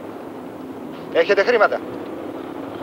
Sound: Greek spoken audio

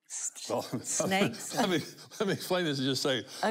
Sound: chuckles

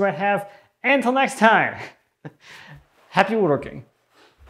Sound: laughs

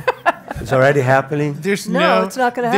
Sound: laughs

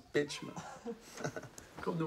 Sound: sami chuckles

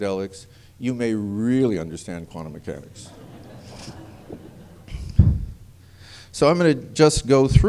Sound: laughter

